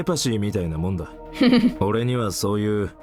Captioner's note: chuckles